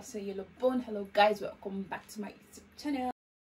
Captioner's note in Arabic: بالإسبانية